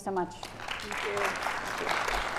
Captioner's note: audience clapping